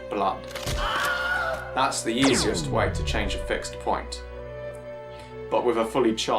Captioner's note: neck snapping, man screaming and laser blast